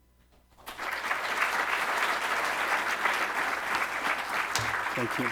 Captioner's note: audience applauds